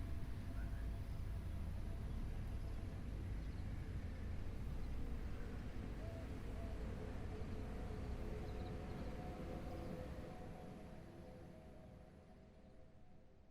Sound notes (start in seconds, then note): 4.1 quiet nature sounds